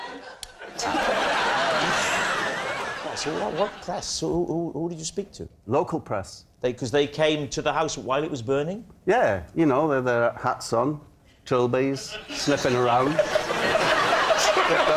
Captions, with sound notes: [laughter] So what press? Who did you speak to? - Local press They, 'cause they came to the house while it was burning? Yeah, you know, with the hats on, trilbies, sniffing around